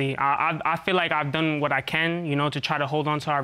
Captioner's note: stuttering